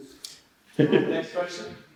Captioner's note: laughs